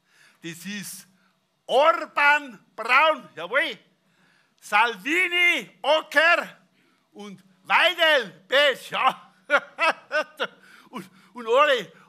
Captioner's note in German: lacht